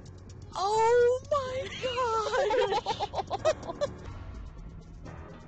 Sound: laughing

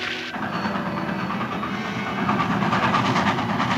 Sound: train rumbling

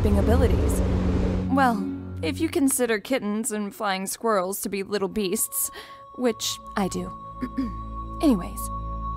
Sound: clears throat

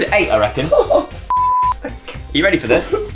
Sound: beep

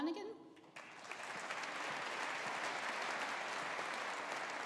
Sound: audience applauding

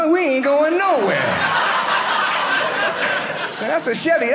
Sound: audience laughing

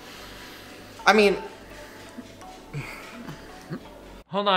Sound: grunts

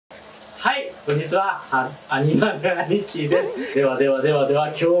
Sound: laughs

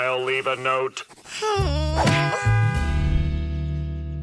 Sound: groaning, honking

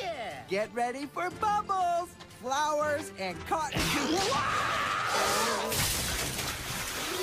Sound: screams

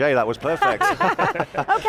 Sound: laughing

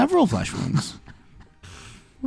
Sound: laughs

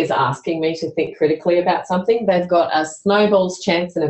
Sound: none

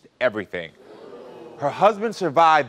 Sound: audience oohing

